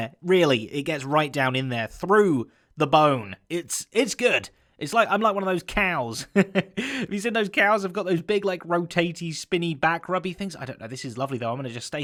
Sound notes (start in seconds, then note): 6.2 chuckles